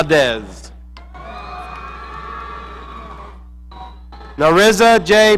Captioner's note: audience cheering